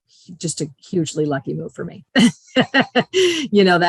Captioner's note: laughs